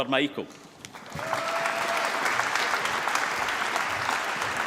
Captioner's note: applause